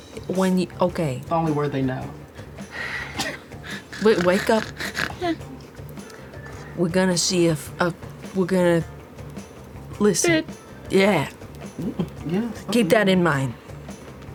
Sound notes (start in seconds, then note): 3.6 snoring